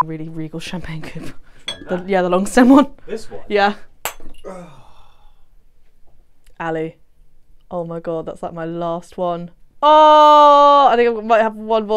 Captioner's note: glass Smashes